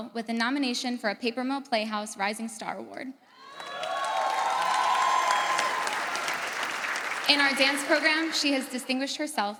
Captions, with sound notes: with a nomination for a Paper Mill Playhouse Rising Star Award. (audience cheers) In our dance program, she has distinguished herself